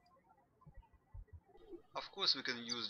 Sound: birds chirping

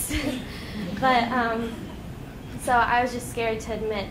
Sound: laughing

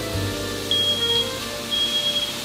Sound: fire alarm goes : "BEEP BEEP"

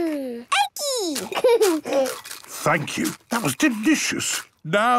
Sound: laughing, crunching

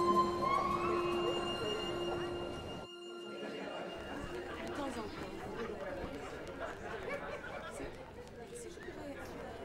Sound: murmuring

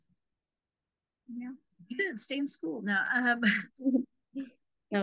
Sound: laughter

